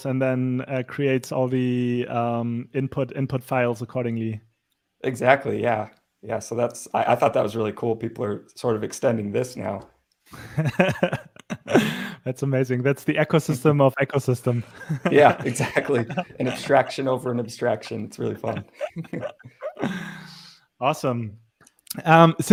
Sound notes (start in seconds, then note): 10.4 laughing; 17.7 laughs